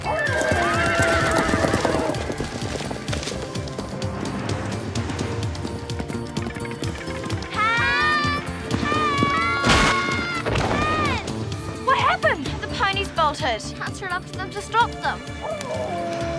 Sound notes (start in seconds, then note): 0.0 horses neighing; 4.4 intense music; 8.8 screaming; 15.4 howling and growling